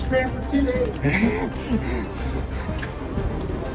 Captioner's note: laughing